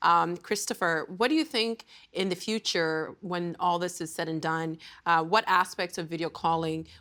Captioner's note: speaking in French